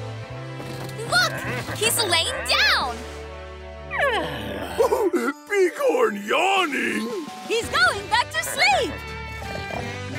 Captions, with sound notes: Look, he's laying down. [yawning] [chuckles] Bighorn yawning. He's going back to sleep.